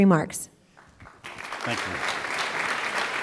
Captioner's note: applause